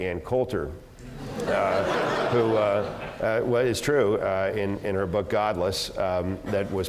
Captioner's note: laugh